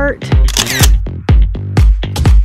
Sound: camera clicking; upbeat music

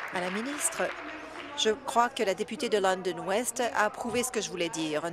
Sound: applause

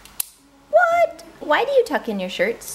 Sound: toy clicks

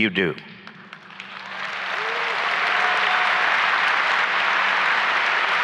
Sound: applause and cheering

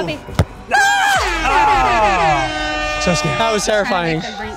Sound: horn blows; cheering

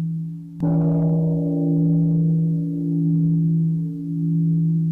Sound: gong

